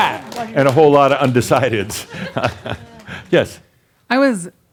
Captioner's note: some applause; chuckles